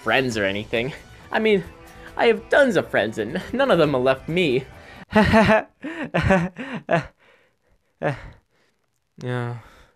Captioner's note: nervous laughter